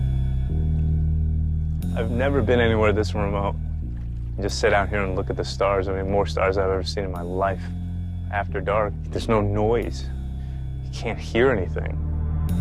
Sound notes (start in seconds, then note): none